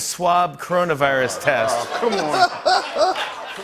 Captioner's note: laughter